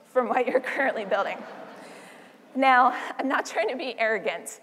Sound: laugh

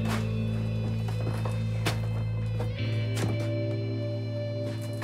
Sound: footsteps crunching

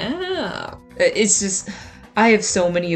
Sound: sigh

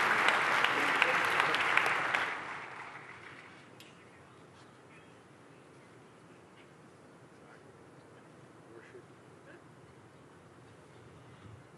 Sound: applause

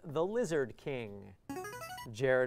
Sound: player buzzer

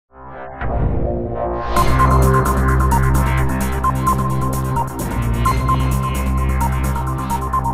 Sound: news entry sound effect; news opening theme sound effect

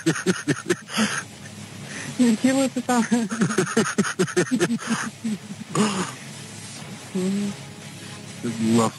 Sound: laughing

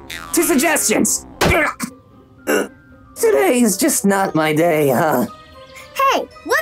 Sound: grunts

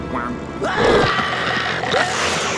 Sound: screaming

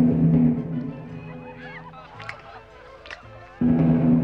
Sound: continued audible chewing

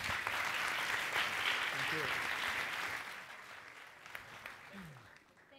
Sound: applause

